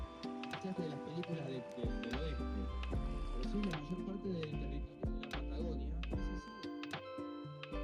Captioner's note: ambient chatter